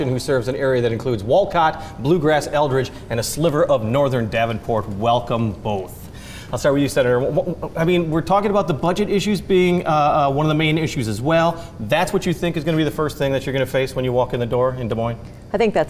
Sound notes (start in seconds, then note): none